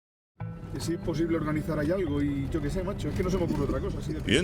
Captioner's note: speaking Spanish